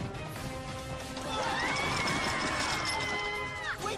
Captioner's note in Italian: urla